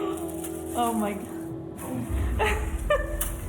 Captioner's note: laughs